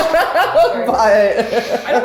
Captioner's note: laughing